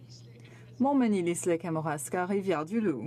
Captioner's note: speaking French